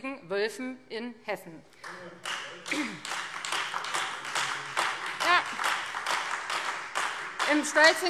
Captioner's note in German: Beifall Freie Demokraten und vereinzelt AfD